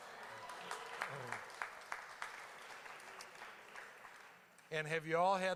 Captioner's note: audience laughing, cheering